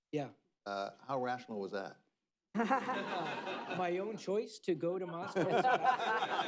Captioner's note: laughter